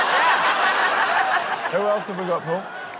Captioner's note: laughter